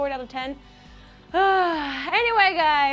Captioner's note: exasperated sigh